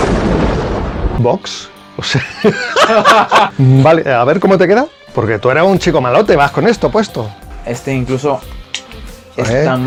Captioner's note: laughs